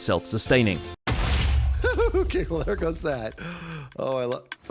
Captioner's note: TNT explodes